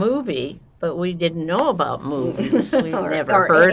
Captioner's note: laughing